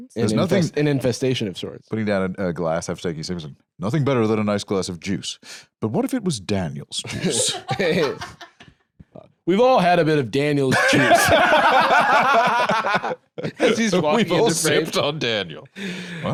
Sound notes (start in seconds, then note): 7.0 laugh; 10.7 both laughing